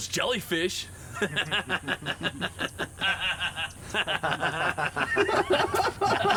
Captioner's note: painters laughing